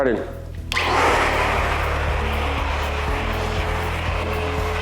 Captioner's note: vacuum whirring